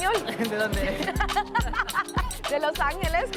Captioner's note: speaking in foreign language; shopkeeper speaking in foreign language; speaking in foreign language